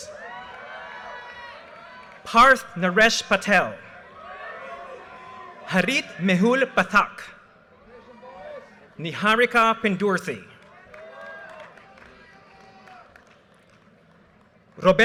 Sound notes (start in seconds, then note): 0.0 audience cheers and applause; 4.0 audience cheers and applause; 8.0 audience cheers and applause; 10.6 audience cheers and applause